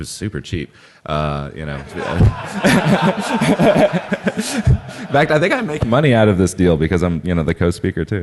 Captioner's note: laughing